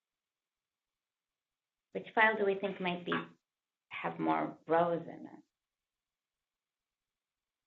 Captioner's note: pause